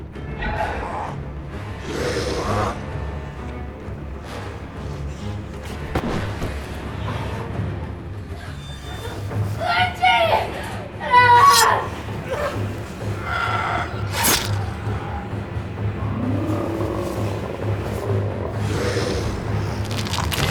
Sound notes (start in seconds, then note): 0.2 creature growling; 3.2 tense orchestral music; 13.0 screaming; 14.2 knife thudding; 15.2 creature groaning; 15.2 tense orchestral music